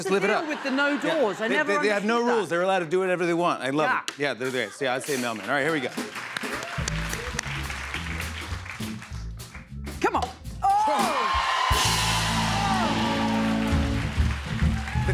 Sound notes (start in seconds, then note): 5.3 applause; 10.6 cheers and applause